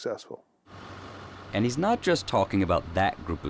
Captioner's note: voiceover